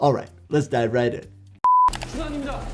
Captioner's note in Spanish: pitido electrónico